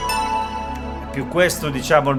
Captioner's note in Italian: campana